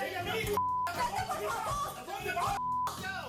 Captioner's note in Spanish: se oye discusión